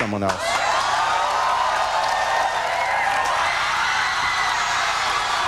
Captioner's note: audience cheering